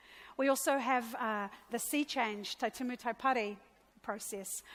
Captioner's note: speaks in a foreign language